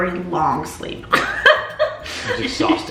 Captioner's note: laughing